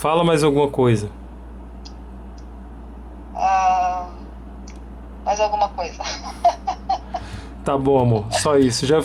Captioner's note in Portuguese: risos